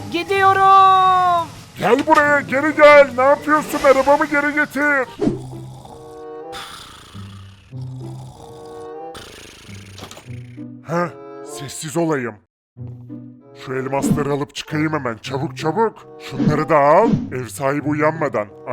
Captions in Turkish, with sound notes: Gidiyorum. Gel buraya. Geri gel! Ne yapıyorsun? Arabamı geri getir! (Horlama sesi) Sessiz olmalıyım. Hemen şu elmasları alıp çıkayım! Çabuk olmalıyım. Ev sahibi uyanmadan bunları alayım.